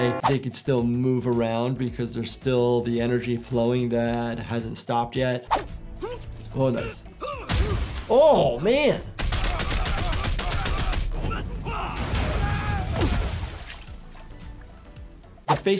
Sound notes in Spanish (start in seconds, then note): 7.2 luchadores gruñendo; 7.3 golpe sordo; 11.5 gruñido del luchador; 11.5 luchador gritando